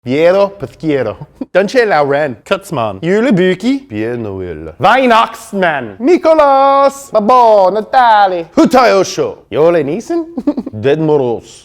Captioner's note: speaking foreign languages